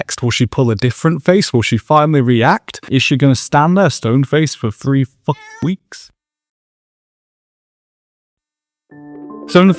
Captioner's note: meow